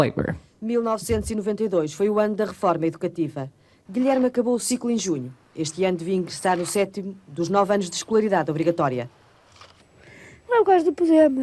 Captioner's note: speaking portugese